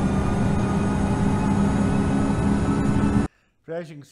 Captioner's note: engine revving